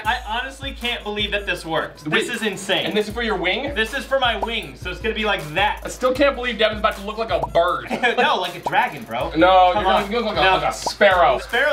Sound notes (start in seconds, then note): 7.8 laughter